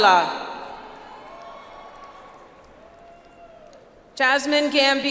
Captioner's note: audience applauds